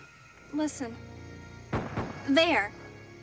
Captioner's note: gunshots in distance